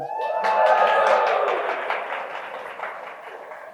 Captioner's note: crowd cheers